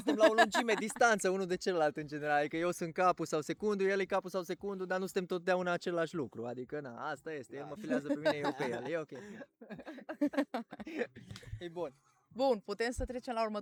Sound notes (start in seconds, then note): 7.8 everyone laughs